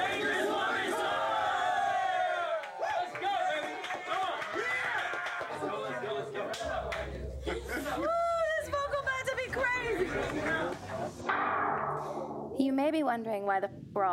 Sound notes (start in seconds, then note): 3.0 all cheering